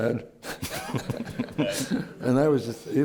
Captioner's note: laughter